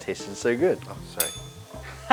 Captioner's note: bell rings